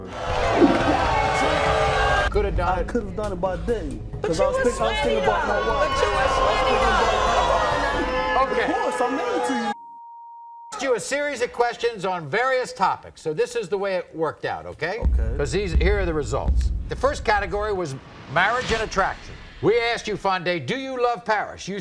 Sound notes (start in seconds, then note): 0.0 audience oohs; 6.2 audience oohs; 9.8 beep